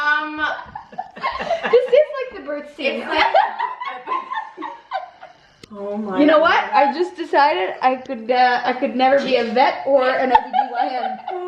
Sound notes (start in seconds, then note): 3.1 laughing